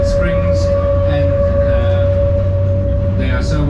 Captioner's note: wheels squeal on corner